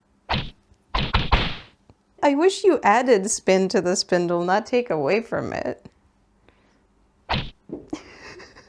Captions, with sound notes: [cartoony whacking noises] I wish you added spin to the spindle, not take away from it. [whack]